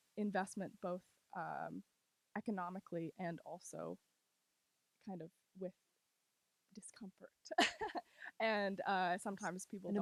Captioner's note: laughs